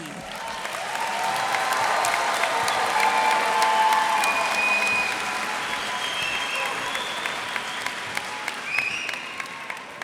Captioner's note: cheers and applause